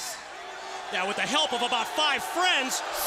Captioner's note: crowd cheering